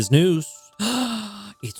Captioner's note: gasps